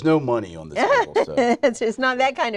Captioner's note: laughing